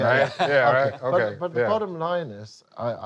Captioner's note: laughing